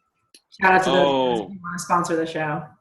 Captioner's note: murmurs